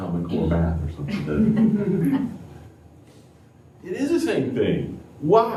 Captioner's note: laughter